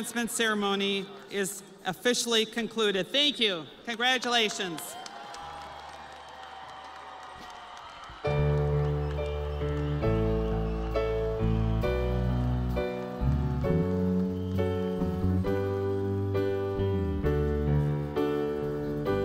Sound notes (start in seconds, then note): 7.9 audience applauding; 7.9 crowd cheering